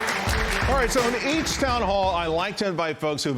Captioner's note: cheers and applause